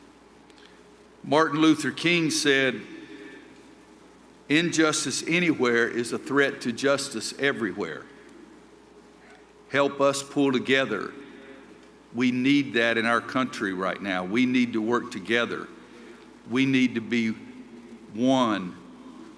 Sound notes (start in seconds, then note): none